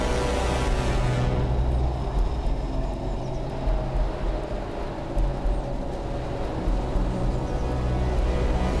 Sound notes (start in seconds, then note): 1.8 loud droning; 1.8 uneasy music